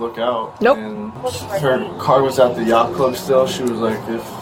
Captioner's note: radio Chatter